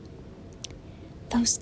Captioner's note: smacks lips